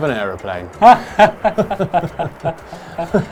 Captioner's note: they laugh